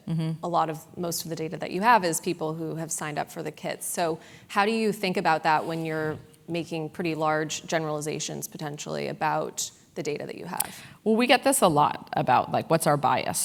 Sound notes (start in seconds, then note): none